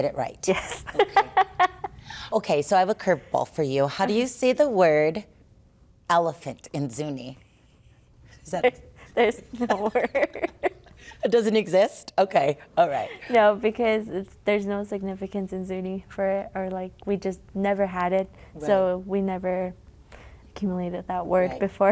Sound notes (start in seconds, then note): 0.7 laughter; 8.4 laughs